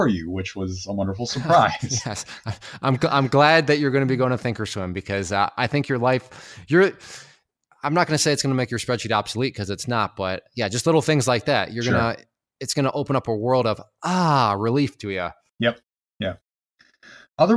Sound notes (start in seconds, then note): 1.2 laughs